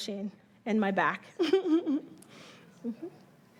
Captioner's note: chuckling